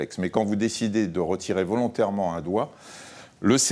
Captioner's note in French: none